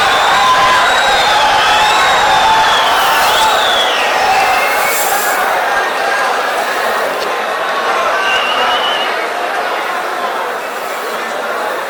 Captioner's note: wild applause and cheering for 22 seconds